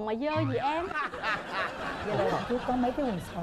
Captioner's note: laughing